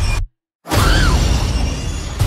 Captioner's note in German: Schrei